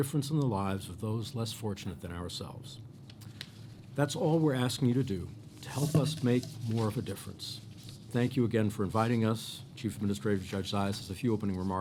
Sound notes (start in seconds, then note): none